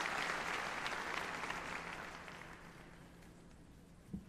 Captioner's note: applause